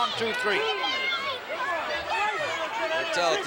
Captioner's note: audience chattering